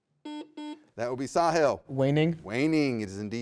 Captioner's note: buzzer beeps